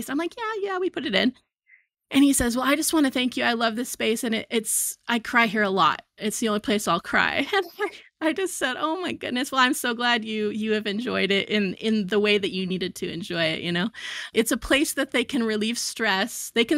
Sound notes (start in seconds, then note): 7.8 chuckles